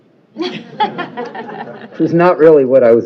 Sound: laughter

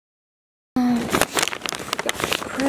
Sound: paper crinkling

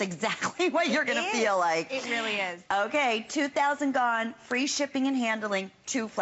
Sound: laughter

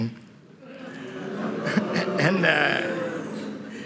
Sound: crowd booing

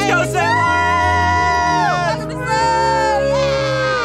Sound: cheering

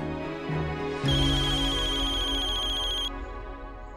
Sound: phone ringing

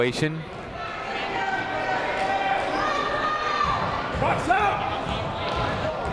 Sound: people shouting in the crowd

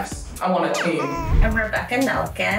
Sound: baby coo

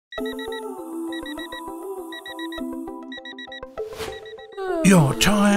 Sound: light music; alarm beeping; yawning

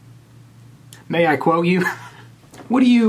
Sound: laughs

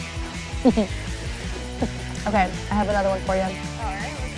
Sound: laugh

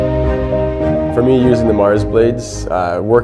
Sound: voiceover

